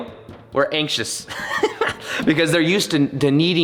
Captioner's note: chuckling